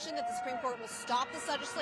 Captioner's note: crowd chanting